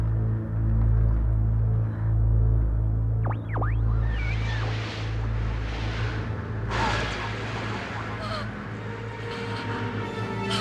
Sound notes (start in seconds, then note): 2.6 berkedip statis; 7.2 terengah-engah